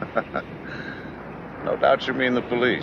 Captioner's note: Jerry laughs